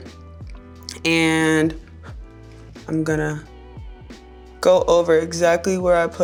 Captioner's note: blowing